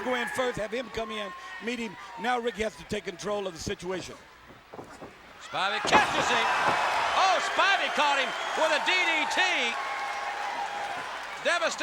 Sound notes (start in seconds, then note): 7.0 crowd cheering